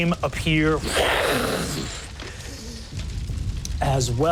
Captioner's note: whooshing